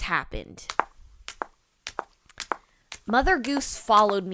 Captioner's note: footsteps